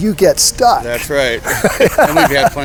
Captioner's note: laughs